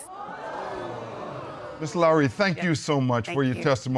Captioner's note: audience gasping